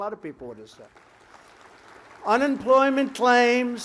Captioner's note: applause